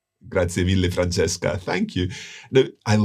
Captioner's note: speaks Italian